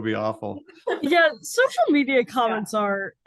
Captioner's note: laughing